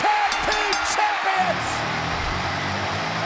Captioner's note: applause